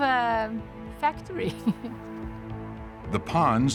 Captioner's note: chuckles